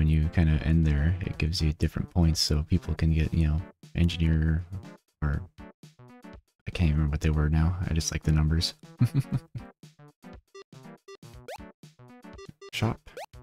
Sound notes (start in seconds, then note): 9.0 chuckles